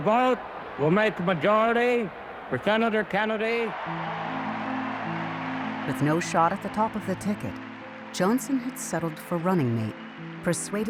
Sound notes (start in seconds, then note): 3.8 crowd cheering